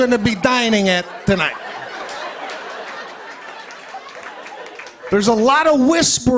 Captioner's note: laughter